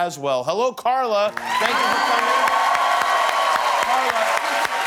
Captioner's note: cheers and applause